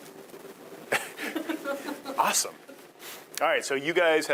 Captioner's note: laughing